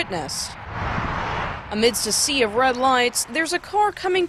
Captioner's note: sound of highway